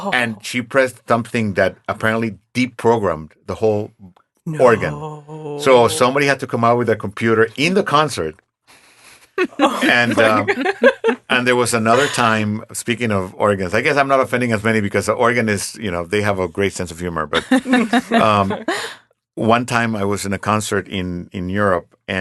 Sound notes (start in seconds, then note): 9.4 laughing; 17.3 laughing